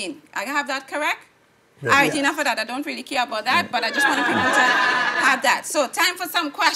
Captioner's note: laughing